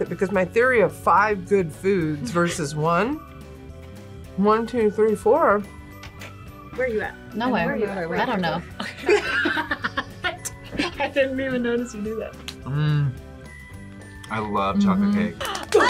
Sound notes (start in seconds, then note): 8.7 both laugh